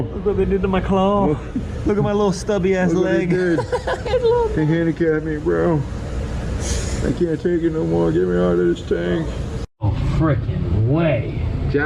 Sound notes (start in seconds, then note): 3.1 laughing